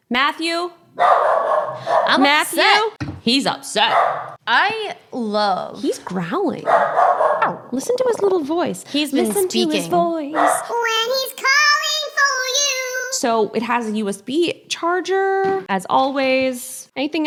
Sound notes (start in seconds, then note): 0.9 dog barks; 6.6 dog barks